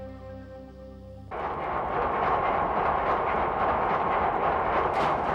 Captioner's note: engine chugging